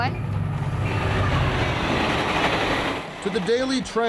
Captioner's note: train clattering